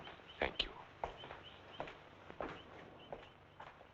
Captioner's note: footsteps thumping